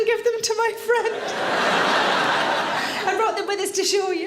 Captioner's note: audience laughs